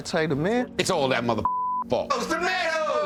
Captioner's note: beep